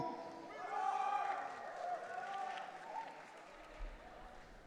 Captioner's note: audience cheering